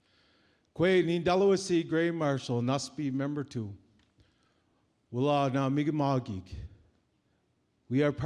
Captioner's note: speaking Mi'kmaw language